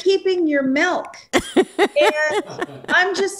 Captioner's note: laughs